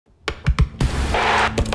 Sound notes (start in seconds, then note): 0.2 ball bouncing; 0.3 chess piece hitting board